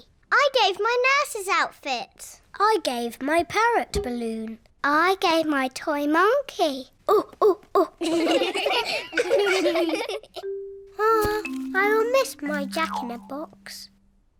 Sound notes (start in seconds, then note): 7.8 children laughing; 8.0 all laugh